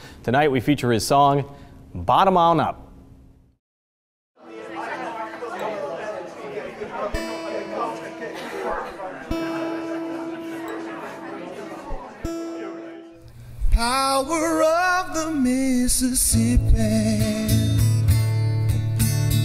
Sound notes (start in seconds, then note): 3.6 crowd chattering; 5.7 guitar tuning